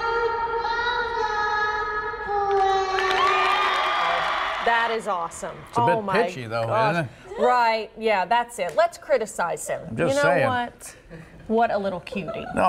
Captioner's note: cheers and applause